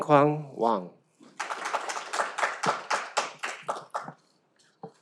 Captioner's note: audience applauds